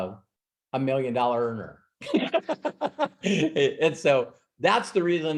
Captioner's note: laughs